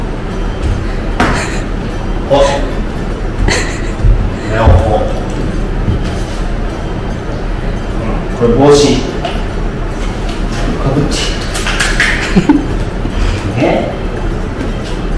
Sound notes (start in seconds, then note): 1.3 laughs